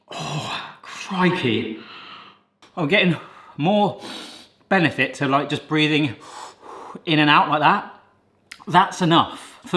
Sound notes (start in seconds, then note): 1.7 breathes deeply; 6.7 puffing